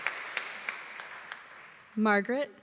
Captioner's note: applause